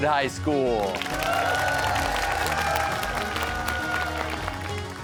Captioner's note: cheers and applause